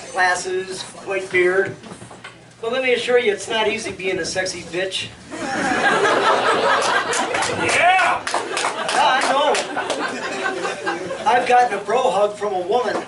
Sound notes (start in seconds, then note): 6.8 clapping